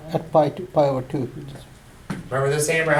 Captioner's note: voiceover